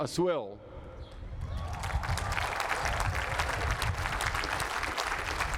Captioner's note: applause